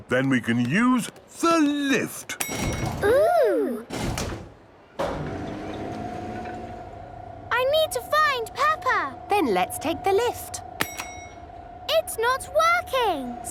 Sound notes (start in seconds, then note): 2.4 lift pings; 4.9 lift moving; 11.1 lift pings